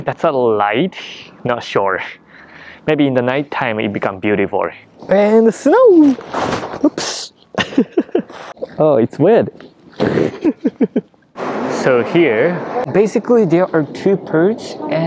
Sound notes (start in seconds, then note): 6.4 snow crunches; 7.5 laughs